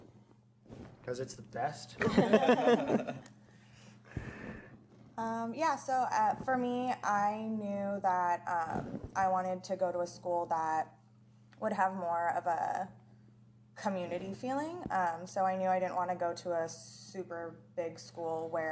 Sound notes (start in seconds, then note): 2.0 laughter